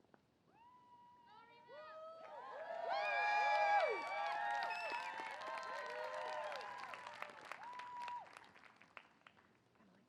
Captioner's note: applause